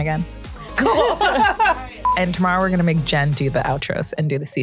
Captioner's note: laughter